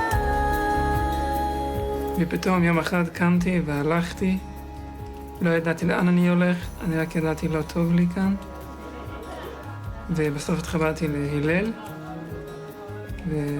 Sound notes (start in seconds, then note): 2.2 young man speaking in foreign language